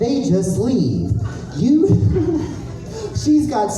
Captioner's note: giggle